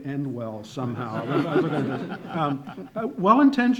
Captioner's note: laughing